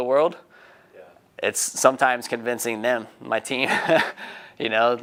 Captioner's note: laughing